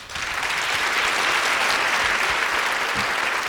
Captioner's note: applause